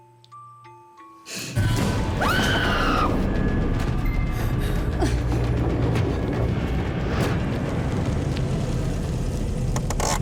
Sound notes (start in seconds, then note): 2.1 screams; 5.1 suspenseful music